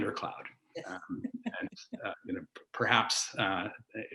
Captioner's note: laughs